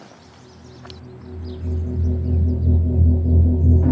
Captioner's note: birds chirping; ship hums